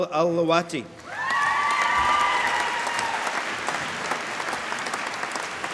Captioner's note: applause